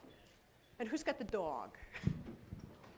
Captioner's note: laughs